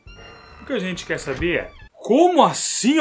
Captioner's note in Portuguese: porta fechando